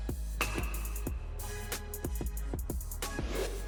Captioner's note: bat hits ball